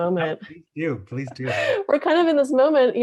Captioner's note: laughs